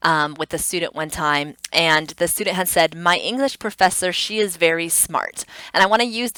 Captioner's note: tongue clicks